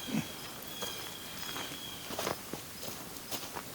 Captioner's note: forest sounds, bird calls